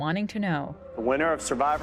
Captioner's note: soundbite of tv show, "survivor"